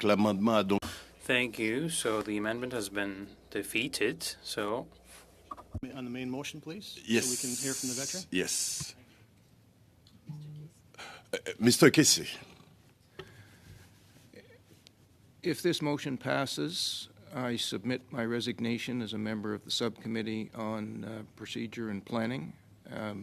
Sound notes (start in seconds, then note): 5.5 speaking french